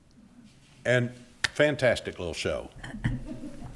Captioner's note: claps hands; attendees laughing